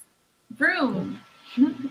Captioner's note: chuckles